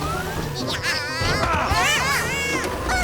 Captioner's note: Bongolalas shouting